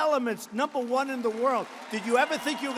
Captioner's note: applause